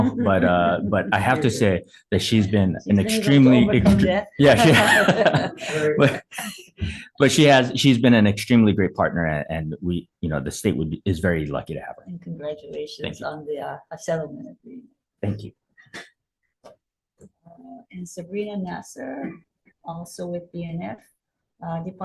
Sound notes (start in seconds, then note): 3.5 radio interference drowns out speaker; 4.5 both laughing